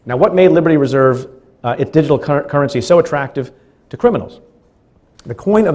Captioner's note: stutters